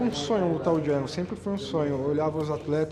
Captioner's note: speaking Portuguese